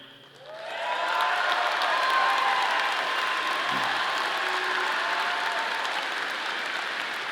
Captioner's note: audience applauding; audience cheering